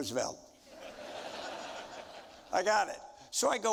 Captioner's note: audience laughing